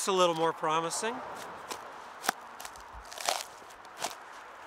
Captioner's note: chopping noises